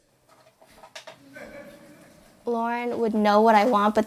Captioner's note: audience laughs